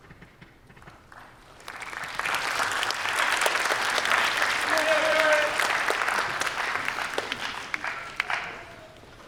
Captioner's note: applause